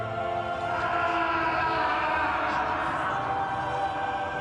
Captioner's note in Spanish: Grito prolongado